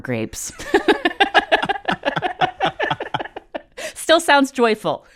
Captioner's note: laughter